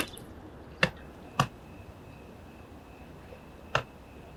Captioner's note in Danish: gyllinger kvidrer